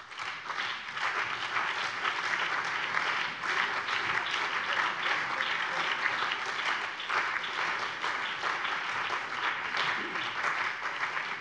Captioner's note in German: Beifall BÜNDNIS 90/DIE GRÜNEN, CDU, SPD, DIE LINKE und vereinzelt AfD